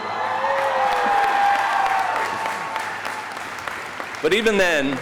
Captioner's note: audience cheering